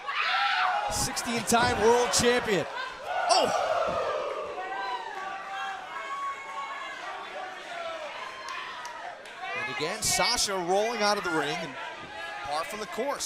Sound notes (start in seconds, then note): 4.4 crowd chatter